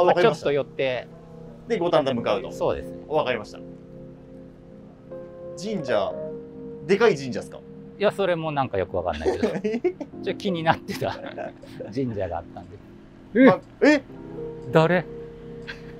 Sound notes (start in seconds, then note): 9.1 laughing